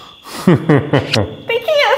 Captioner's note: laughing